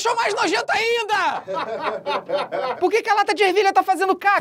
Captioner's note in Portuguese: risadas